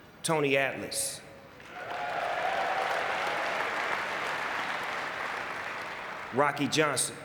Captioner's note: audience cheering and clapping